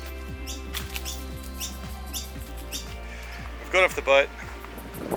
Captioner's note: birds chirping